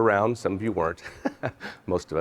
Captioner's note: laughs